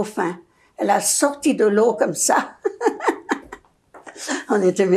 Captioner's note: laughing